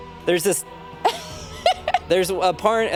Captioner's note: dramatic music; laughs